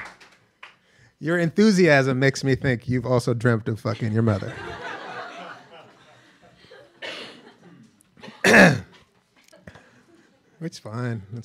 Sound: laughter

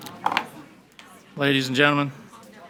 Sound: gavel bangs

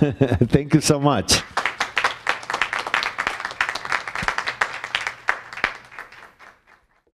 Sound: applause

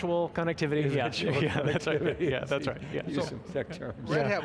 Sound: laughing

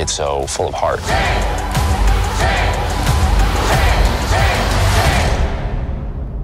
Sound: Crowd chanting "Chang!"

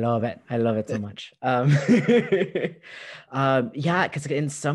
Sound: laughter

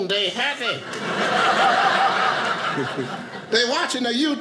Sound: audience laughing

